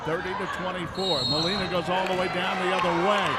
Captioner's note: referee whistling